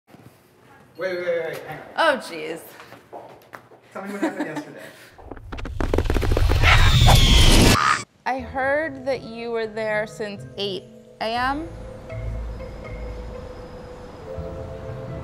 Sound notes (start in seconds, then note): 6.2 ostrich screeching; 12.6 light music